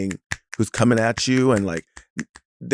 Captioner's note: snaps fingers